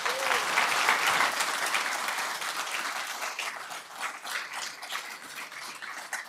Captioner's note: applause